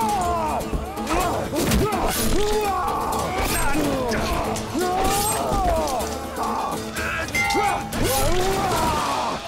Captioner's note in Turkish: Kılıç sesleri; Bağırma sesleri